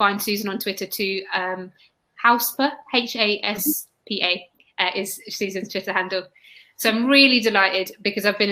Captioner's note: erm